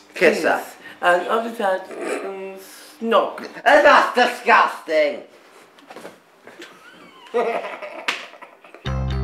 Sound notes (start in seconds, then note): 1.8 giggles; 6.6 laughs